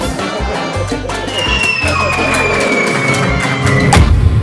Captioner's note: cartoon falling sound